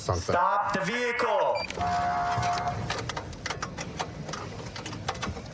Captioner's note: horn blaring